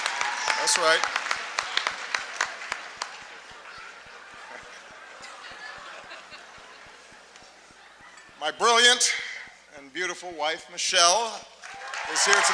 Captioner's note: laughter, applause